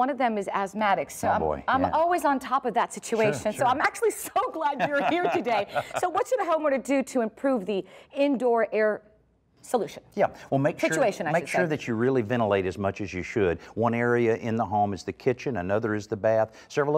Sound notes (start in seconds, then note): 4.4 laugh